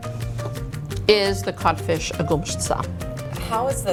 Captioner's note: speaking foreign language